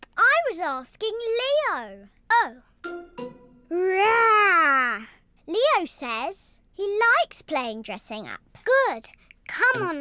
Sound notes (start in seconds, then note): none